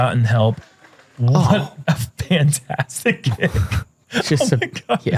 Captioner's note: chuckle